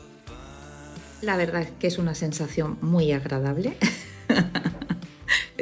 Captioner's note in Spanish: risas